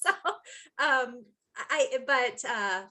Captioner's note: laughing